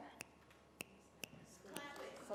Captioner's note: fingers snapping